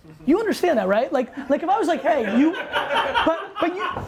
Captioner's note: laughter